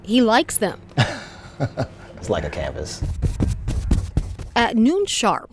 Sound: laughs; brushing sound

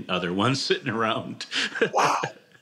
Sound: laughs

